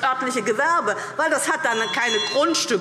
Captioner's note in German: Glockenzeichen